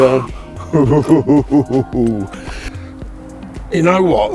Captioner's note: laughs